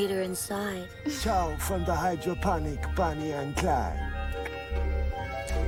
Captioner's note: clicks tongue